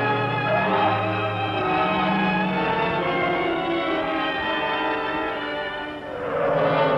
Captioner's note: gentle instrumental music; tense music; tires screeching